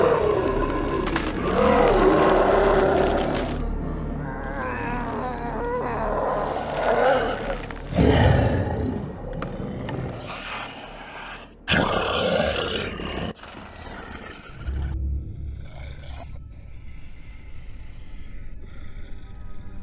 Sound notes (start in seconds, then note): 1.1 Terry growling; 1.1 body stretching; 4.7 Terry moaning; 6.5 Terry growling; 14.6 somber music; 14.6 werewolf growling